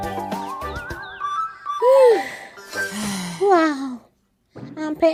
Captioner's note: both exhale exhaustedly